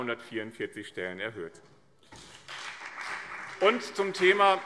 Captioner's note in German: Beifall BÜNDNIS 90/DIE GRÜNEN und vereinzelt CDU